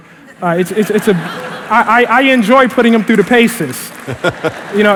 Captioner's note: laughter